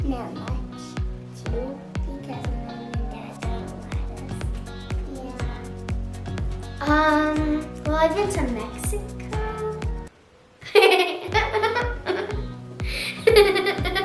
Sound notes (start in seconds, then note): 11.0 laughs